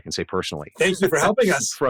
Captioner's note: laughs